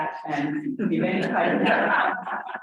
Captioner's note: audience laughs